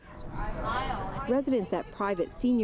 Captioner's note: speaking french language